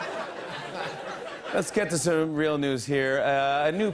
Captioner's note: laughter; normal voice